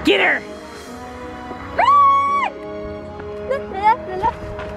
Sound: yells

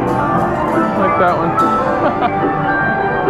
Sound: laughs

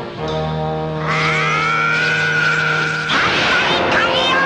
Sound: starts screaming

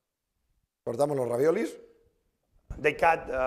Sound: speaking spanish

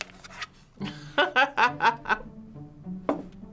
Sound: laughing

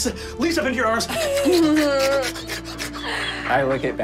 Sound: slurping

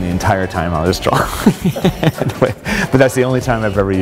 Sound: laughter

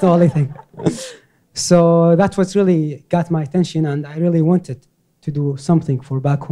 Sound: laughter

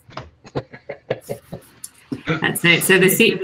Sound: laughs

